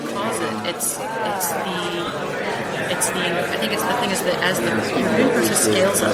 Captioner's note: mutters off microphone